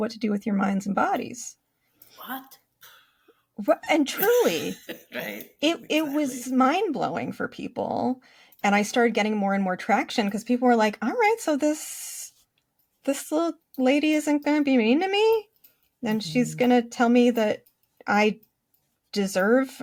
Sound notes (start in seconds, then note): 4.1 laughs